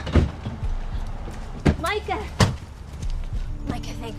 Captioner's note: cars doors slam